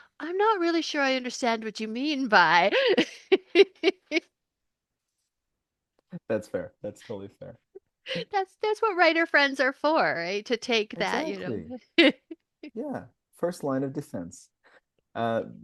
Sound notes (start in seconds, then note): 5.5 laughs; 8.6 laughing